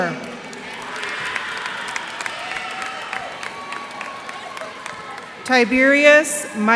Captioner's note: cheers and applause